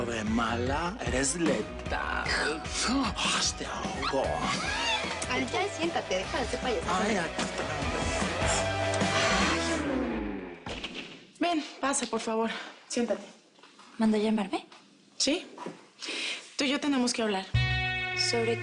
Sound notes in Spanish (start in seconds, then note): 5.4 Risas